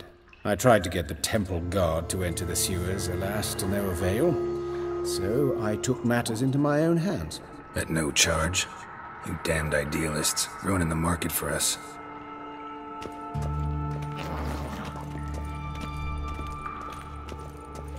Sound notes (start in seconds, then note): 14.2 faint growling